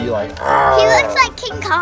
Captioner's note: announcer growls